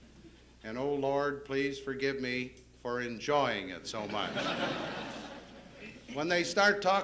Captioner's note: laughter